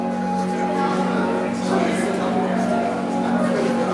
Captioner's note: crowd chatters